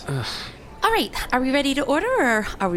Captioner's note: Pleck sighs. Bory returns